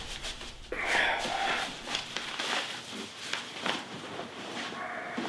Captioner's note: Scott grunts